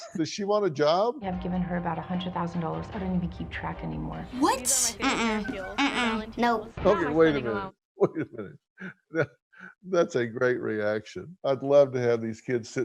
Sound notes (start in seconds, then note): 9.2 chuckles